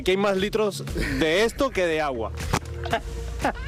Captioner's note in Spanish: risas